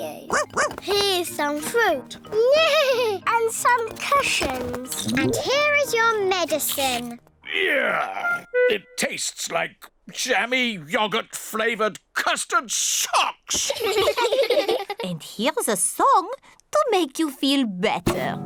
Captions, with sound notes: (BARKS) Here's some fruit! (NEIGHS) And some cushions! And here is your medicine! Ugh! It tastes like jammy yogurt-flavored custard socks! (ALL LAUGH) And here's a song to make you feel better.